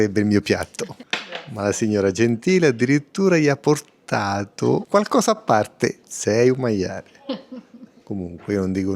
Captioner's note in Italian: risate